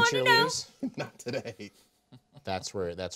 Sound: laughing

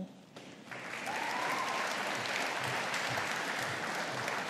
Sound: audience applauding

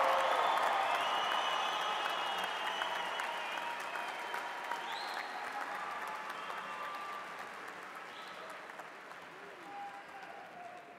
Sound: crowd cheering

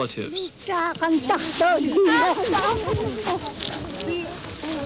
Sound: speaking yup'ik dialect

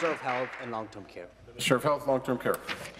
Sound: applause

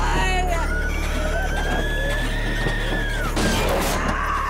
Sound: sobbing; shrieking

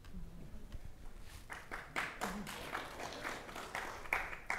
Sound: audience applauding

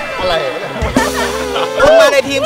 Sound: laughs

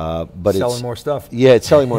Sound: laughs

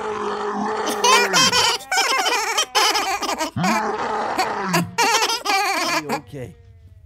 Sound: laughs

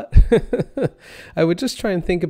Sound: laughs

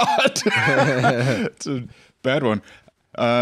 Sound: laughs

